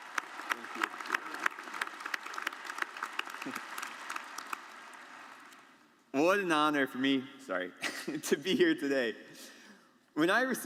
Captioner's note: applause